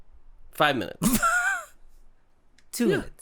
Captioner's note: spluttering laughter